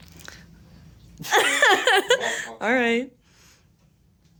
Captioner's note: laughs